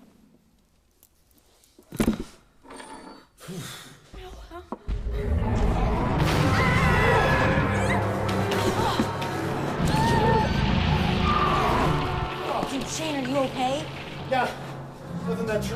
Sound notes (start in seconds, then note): 5.0 growling; 6.2 screams